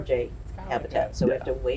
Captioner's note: background chatters